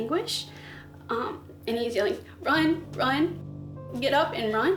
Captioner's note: shaky voice